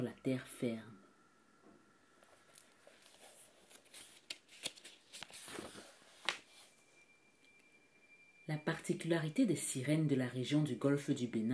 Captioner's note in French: Bruit de page qu'on tourne